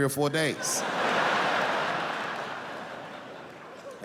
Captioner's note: laughing